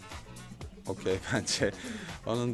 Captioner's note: laughs